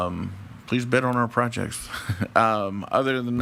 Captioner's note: chuckles